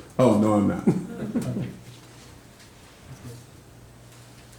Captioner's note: all chuckling